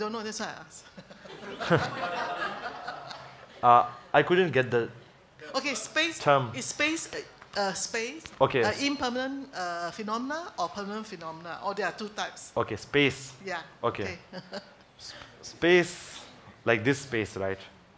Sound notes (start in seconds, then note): 1.1 audience laughs